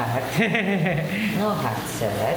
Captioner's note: laughing